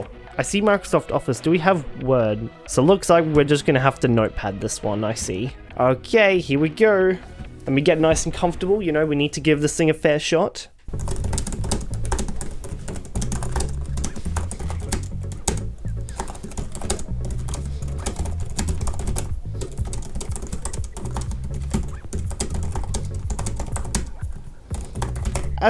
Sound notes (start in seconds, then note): 10.9 typing